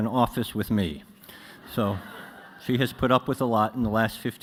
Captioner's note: laughter